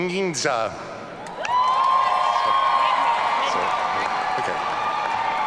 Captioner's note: audience cheering